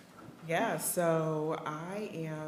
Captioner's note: none